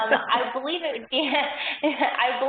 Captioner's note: laughing